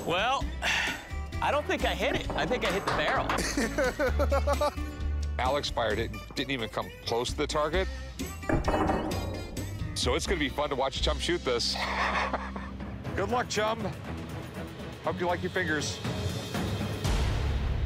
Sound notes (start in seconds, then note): 3.3 laughs; 8.2 gun shot; 11.7 laughs